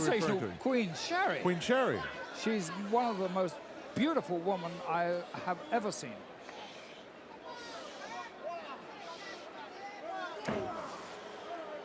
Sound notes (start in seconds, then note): 6.0 crowd murmuring